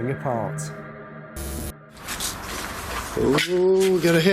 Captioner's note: static